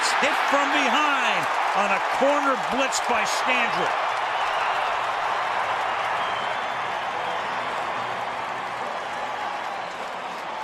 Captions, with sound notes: And he gets hit from behind on a corner blitz by Scandrick. [cheering]